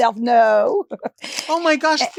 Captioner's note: Marguerite chuckles